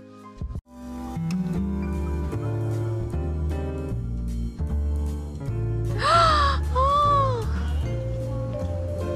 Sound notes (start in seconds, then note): 6.0 gasp